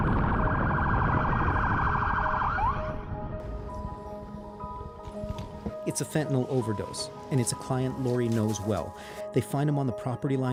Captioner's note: sirens